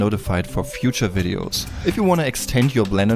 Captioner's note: whoosh